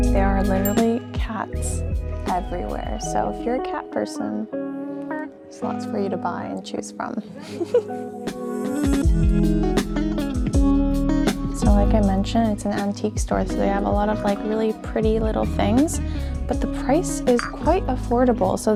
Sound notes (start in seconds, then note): 7.4 giggles; 8.6 chill music